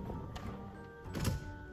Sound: door closing; door opening

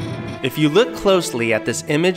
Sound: suspenseful music; voiceover

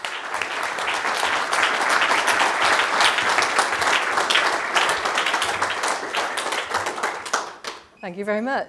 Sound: applause

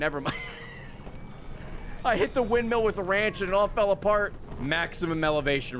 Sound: laughs

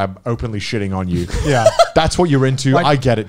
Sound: laughs

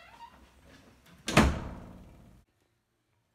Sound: door Shuts

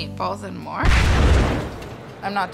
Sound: explosion sound

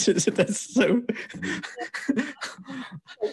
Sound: laughs

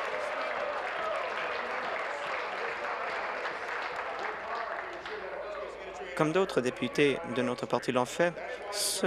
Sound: applause

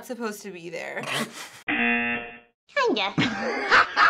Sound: snorting; buzzer; uproarious laugh track

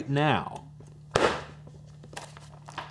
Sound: slam

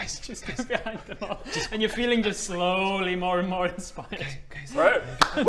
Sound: whispers

